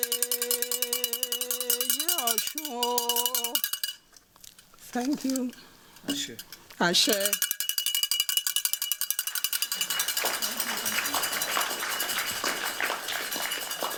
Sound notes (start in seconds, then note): 6.1 non-english; 7.4 clanging; 9.3 applause